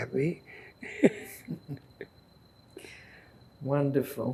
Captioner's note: laughing